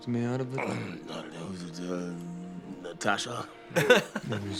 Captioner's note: slurring